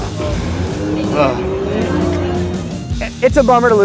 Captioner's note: sighing